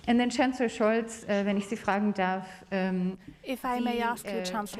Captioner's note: speaks German